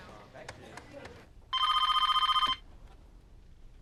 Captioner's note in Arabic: هاتف RlNGlNG